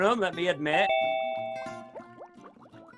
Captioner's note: bell rings